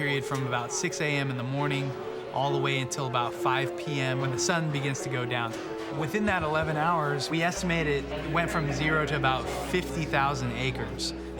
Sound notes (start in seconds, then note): none